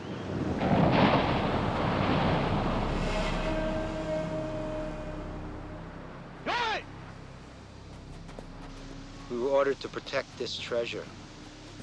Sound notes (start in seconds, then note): 0.0 waves crashing; 3.2 dramatic music; 6.6 shouting in foreign language